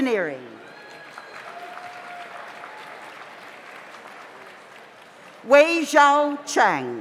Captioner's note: audience cheers; audience applauds